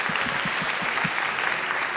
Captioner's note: applause